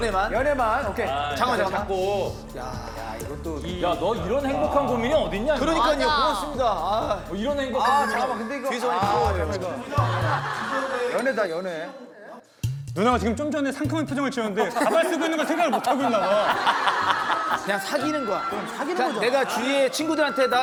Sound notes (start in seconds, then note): 9.0 laughing